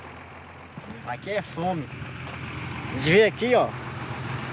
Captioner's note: Portuguese spoken audio